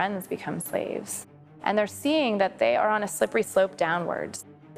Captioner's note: none